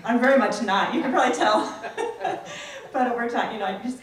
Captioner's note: laughs